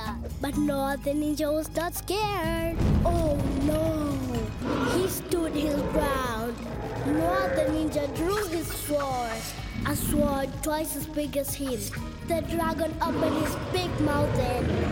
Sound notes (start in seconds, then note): 3.2 roaring